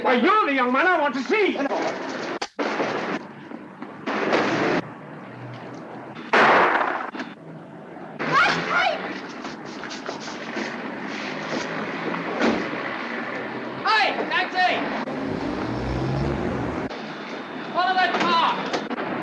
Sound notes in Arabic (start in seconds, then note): 6.3 انفجارات الأسلحة; 8.3 يصرخ كاي; 14.6 هدير المحرك